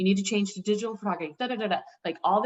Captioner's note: makes vocal noises